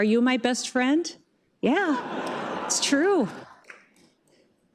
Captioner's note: laughter